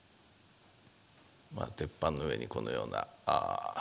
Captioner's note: speaking japanese